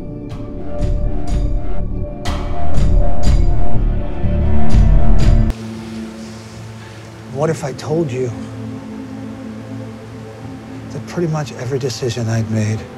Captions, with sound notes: (gripping music intensifies) (leaves rustle) What if I told you that pretty much every decision I've made